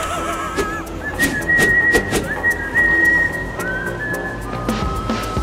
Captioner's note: creepy laugh; whistle